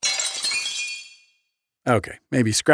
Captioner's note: glass shatters